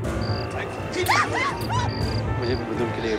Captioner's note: Sonali exclaims